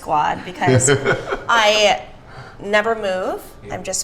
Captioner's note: laughs